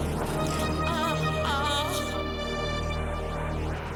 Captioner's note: suspenseful music; woman moaning